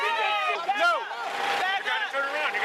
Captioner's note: yelling